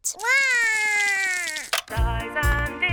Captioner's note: cries